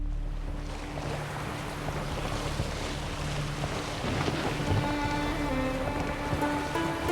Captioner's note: water spraying, splashing